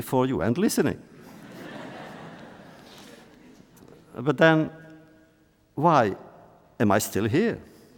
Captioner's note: laughter